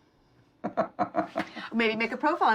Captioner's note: Tom laughs